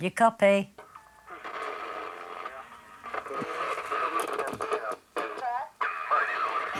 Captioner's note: radio static; distorted voice